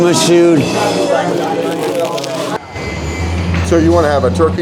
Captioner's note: traffic